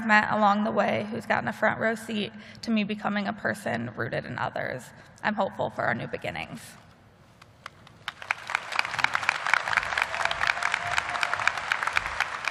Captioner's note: applause